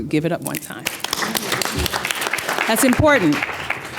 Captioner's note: applause